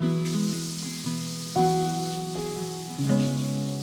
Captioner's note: water running